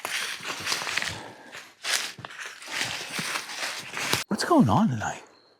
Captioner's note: leaves crunching